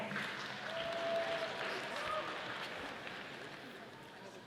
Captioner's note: audience applauding